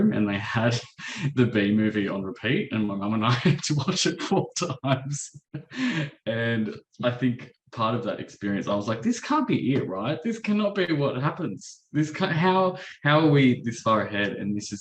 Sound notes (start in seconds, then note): 5.6 chuckles